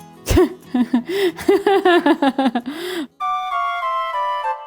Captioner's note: laughs